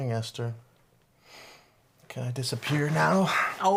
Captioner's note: none